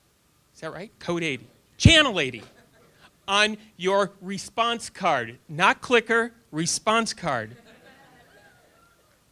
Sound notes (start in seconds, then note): 7.6 audience laughter